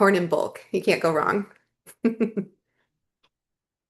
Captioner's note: chuckles